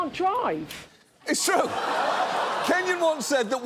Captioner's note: audience laughs